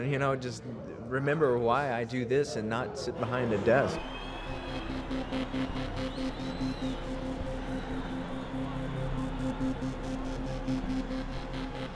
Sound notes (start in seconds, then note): 3.2 crowd cheering; 8.0 electronic music